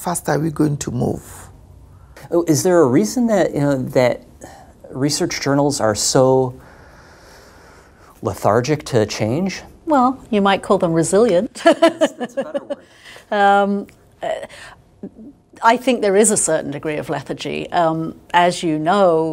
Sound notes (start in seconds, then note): 11.5 laughter